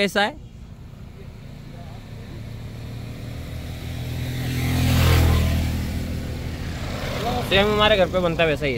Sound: engine vrooming

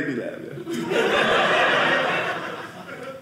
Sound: audience laughing

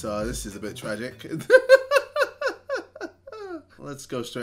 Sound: laughing, holding back tears

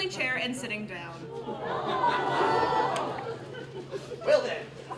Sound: aww's from the audience

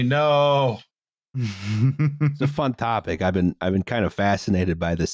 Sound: laughter

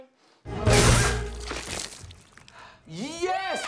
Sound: splashing

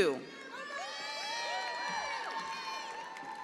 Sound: attendees applauding

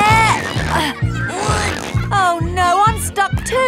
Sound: grunting

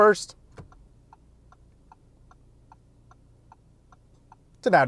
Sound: car indicator ticks

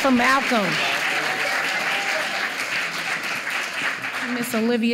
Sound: applause

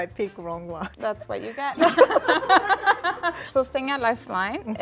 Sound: laughs

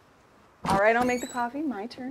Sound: handle clatters

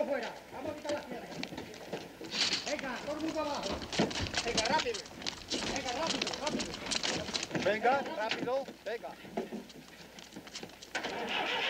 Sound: speaking foreign language

